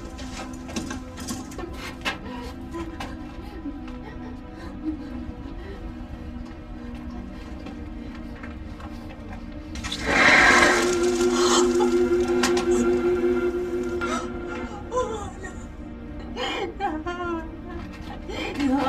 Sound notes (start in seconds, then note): 0.1 struggling to breathe while crying; 1.6 sobbing; 8.3 rattling sound; 11.8 sobbing